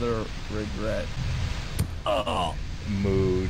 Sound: thud

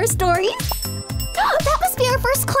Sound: bell rings

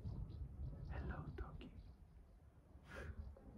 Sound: whispers

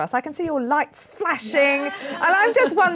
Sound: laughs

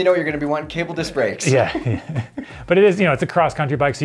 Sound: chuckles

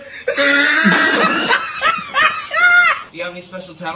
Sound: laughing; spit

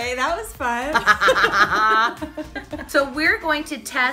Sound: laughing

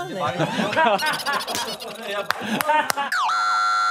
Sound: giggling

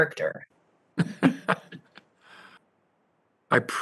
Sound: laughter

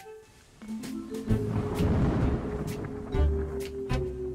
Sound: thunder; jazz music

